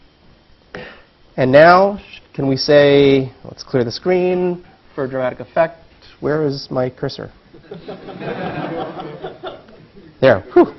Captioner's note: laugh